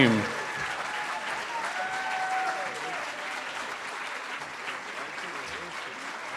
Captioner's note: cheering & Applause